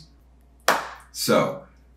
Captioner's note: hands clapping